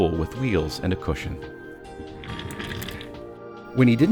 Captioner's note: chair rolling